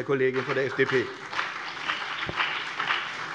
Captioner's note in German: Beifall BÜNDNIS 90/DIE GRÜNEN und vereinzelt CDU